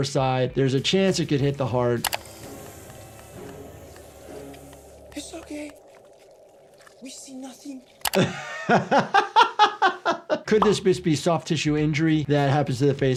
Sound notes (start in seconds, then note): 0.9 dramatic music; 8.1 doctor laughs